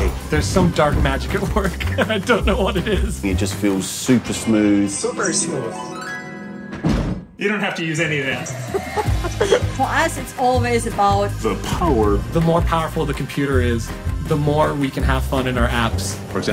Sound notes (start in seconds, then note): 6.8 thuds